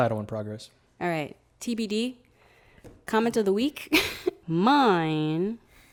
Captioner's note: laughs